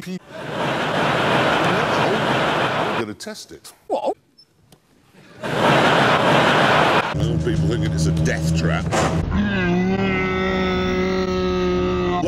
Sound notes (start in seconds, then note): 0.3 laughter of the damned; 5.2 more laughter of the damned